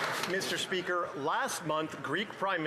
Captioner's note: some Applause